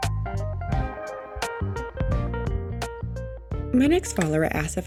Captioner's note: music recedes, computer mouse clicks